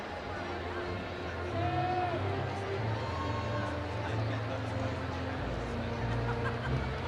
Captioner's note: audience cheering